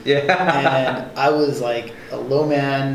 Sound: laughing

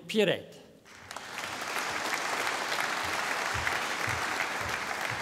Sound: audience applauding

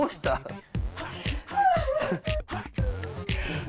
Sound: i can't stop crying

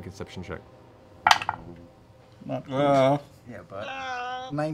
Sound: groans

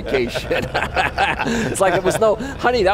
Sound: laughter

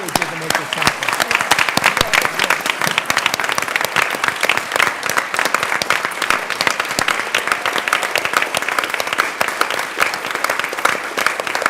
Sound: applause

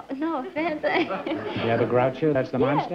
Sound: laughs

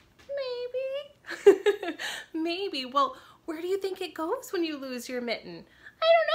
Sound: laughs

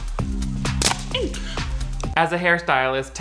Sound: hair brush snaps

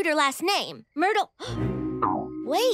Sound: gasping

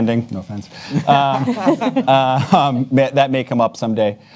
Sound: panelists laugh

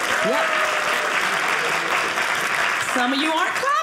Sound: audience applauding

